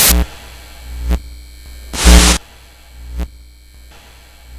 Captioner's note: logo buzzing